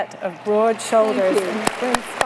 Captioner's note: applause